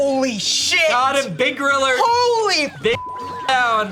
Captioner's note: beep